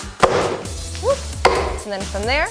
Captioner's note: hammer thuds